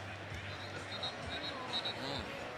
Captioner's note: whistle blows